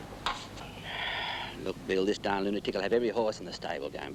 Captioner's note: sighs